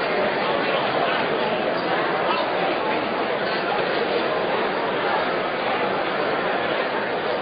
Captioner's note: crowd noise